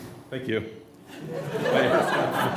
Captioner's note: voiceover; laughter